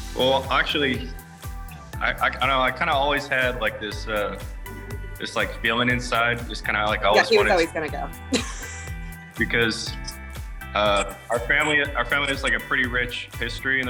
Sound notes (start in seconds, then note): 8.3 laughs